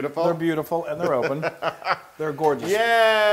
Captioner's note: laugh